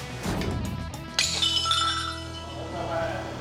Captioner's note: glass shatters